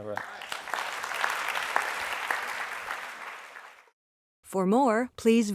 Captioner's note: applause